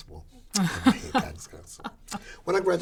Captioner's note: laughin